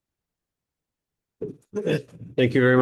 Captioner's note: chuckle